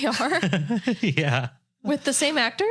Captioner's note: laughing